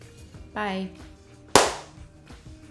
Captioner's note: clap